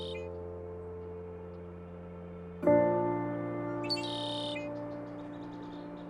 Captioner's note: piano music; red-winged blackbird calls